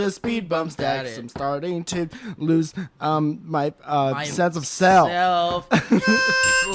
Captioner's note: ding